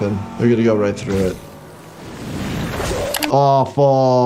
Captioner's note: whale squishing